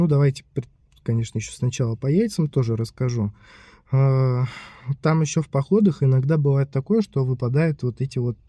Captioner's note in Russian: вздыхает